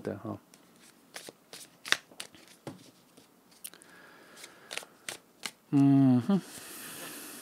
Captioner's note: sigh